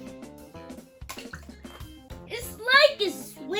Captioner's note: water splashes